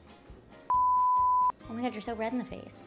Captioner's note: beep